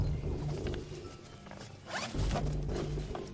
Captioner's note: unzipping